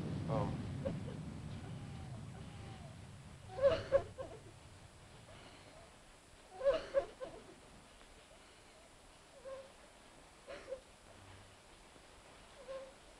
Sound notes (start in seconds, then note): 0.0 thunder rumbling; 1.6 Lee sobbing; 1.6 rain pattering